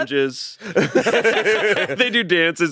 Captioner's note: all laughing